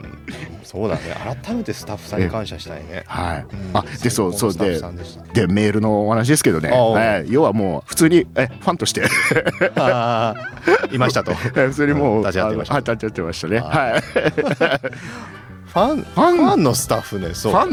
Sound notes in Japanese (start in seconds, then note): 9.0 笑い; 13.6 笑い